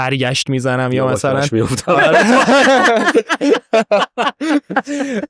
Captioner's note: laughs